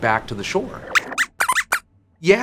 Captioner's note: squeaks squeaks